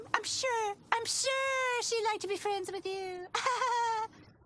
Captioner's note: chuckling